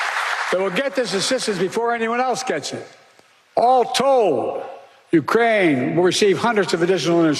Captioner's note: applause